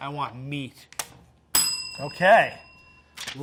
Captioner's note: bell dinging